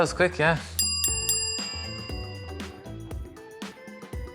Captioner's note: bell dinging